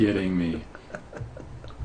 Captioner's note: voiceover